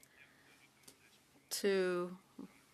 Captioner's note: speaking French